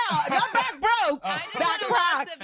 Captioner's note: laughter